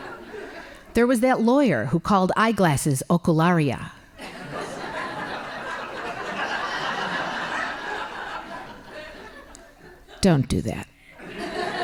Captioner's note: laughing; laughing